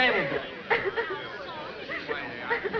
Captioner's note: cathy cries